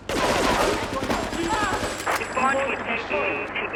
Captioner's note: sirens wailing